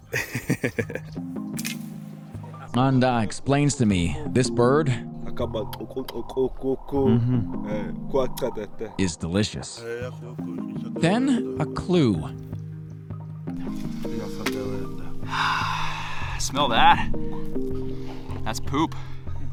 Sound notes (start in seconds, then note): 0.0 laughs; 5.4 hunter speaking in tribal language; 13.3 peaceful music